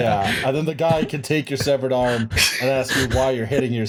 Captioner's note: laughter; laughter